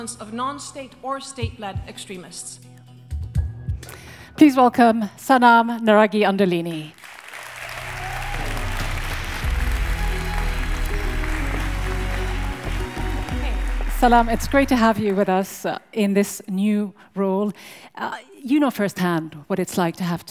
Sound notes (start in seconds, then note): 6.9 audience applauds